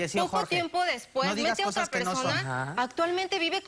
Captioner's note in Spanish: Hablan al unísono